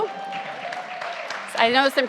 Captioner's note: audience applauds and cheers